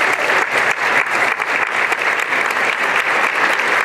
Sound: applause and cheering

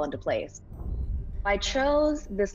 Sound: quiet music; scene whooshing

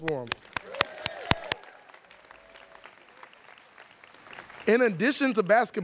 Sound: students clapping

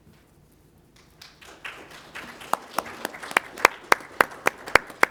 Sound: applause

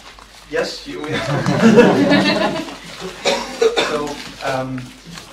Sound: laughter

